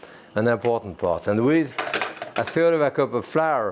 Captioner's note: pan rattling